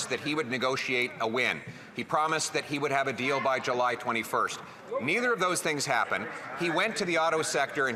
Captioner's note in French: voix de l'interprète